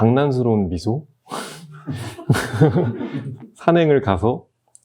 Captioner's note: everyone laughs